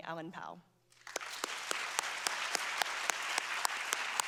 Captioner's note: applause